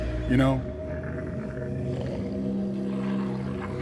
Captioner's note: haunting music; animal growling